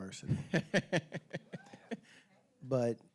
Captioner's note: laughing